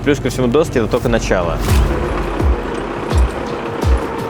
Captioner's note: construction sounds